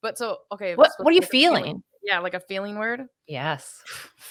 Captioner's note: none